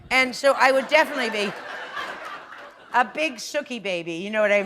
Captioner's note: laughter